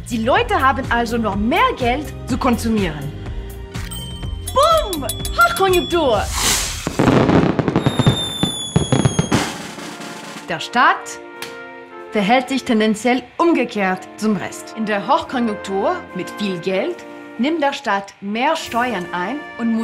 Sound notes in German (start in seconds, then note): 6.2 Feuerwerk; 9.5 Trommelwirbel